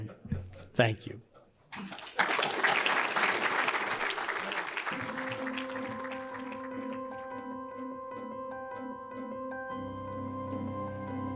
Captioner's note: applause